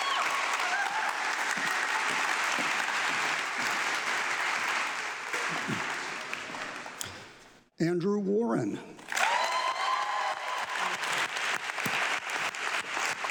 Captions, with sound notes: - Andrew Warren. (audience clapping)